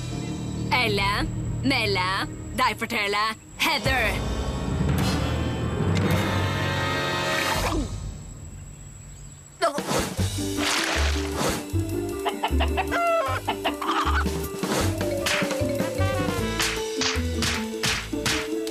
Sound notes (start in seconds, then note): 12.2 chicken clucking